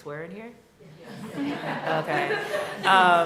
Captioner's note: laughter